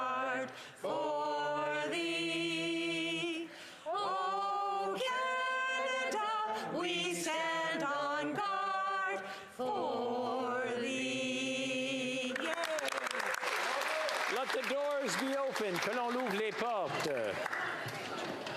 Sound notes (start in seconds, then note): 4.7 applause